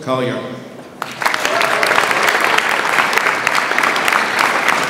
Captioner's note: audience applauds